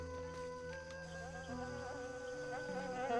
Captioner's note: buzzing